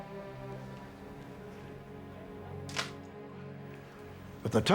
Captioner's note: camera clicks